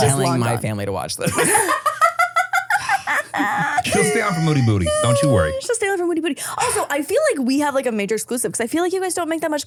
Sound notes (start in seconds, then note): 2.1 everyone laughs